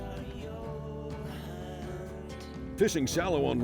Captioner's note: voiceover